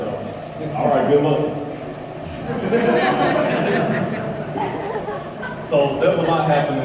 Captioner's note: crowd: laughter